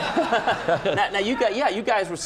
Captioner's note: laughter